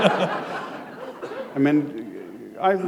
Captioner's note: laughter